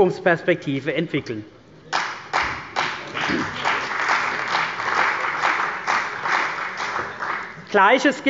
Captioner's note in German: Beifall bei der CDU und dem BÜNDNIS 90/DIE GRÜNEN